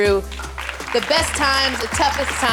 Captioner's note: audience applauding